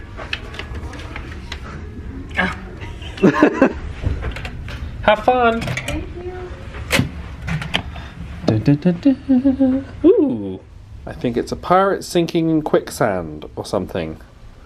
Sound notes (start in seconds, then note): 2.9 laughing